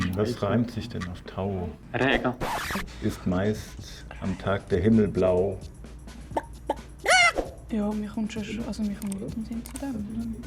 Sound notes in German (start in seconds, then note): 2.3 Kratzende Platte; 6.3 gackerndes Huhn